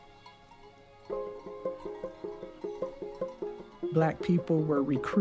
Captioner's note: cowbells; cattle lowing